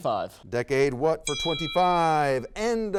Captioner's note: bell dings